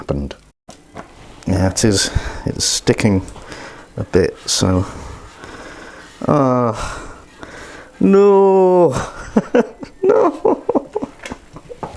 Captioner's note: sobbing and wailing